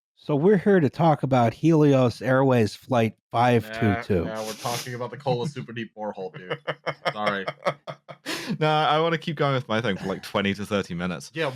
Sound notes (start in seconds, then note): 6.7 chuckles